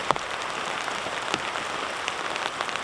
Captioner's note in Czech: zvuky deště